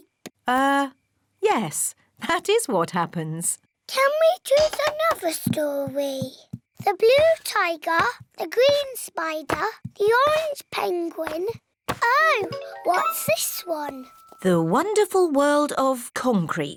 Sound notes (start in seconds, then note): none